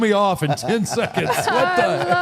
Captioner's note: all laughs